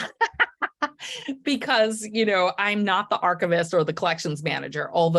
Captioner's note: laughing